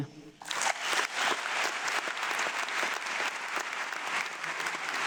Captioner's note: audience clapping